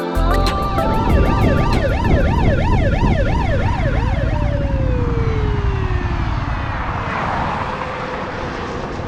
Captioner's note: police ciren